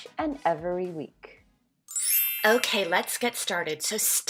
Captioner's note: bells chiming